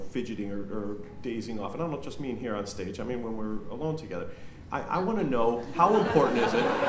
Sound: laughter

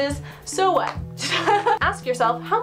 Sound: laughs

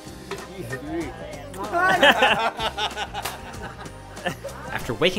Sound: both laughing

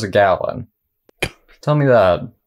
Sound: snickers

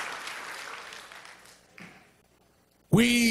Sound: applause

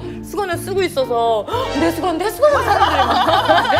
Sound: giggles

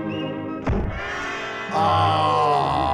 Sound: thudding

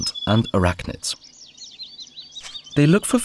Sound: sounds of nature

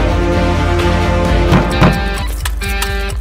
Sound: door sound

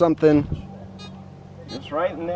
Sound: beeping

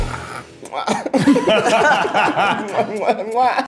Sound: laughing; blowing kisses

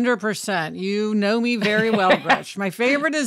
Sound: laughs

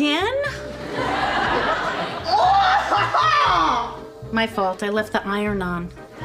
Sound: screams off-screen

